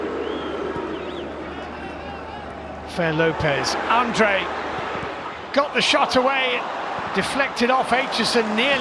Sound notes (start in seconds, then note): 1.2 audience oohs